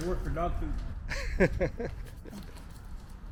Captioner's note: laughs